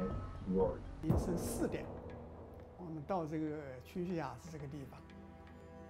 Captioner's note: in foreign language